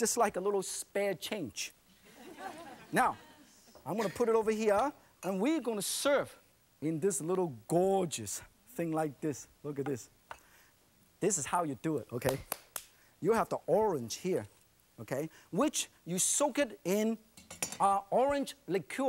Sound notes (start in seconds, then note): 2.1 laughing